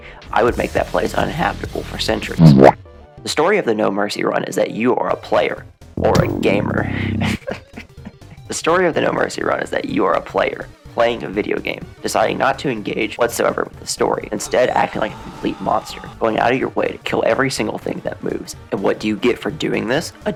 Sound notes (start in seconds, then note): 2.4 boo Womp; 6.9 completely normal laugh